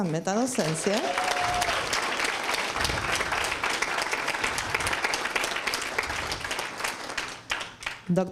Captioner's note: applause and screams